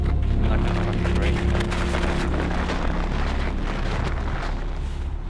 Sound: snow squelching

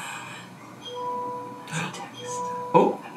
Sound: phone chimes

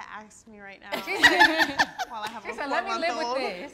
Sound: all laughing

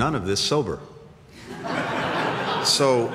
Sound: laughter

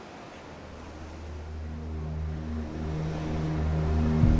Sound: waves crash; suspenseful music

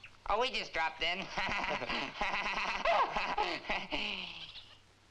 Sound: Sammy and Duke laughing

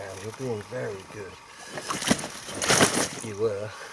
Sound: fish struggles

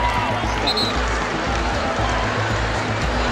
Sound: whistle

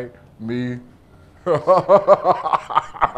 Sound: laughs

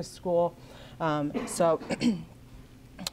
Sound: clears throat

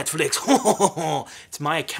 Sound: laughing

